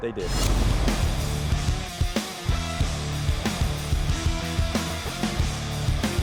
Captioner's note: whooshing; rock music